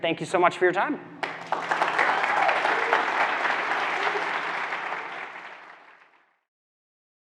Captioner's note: audience clapping; audience cheering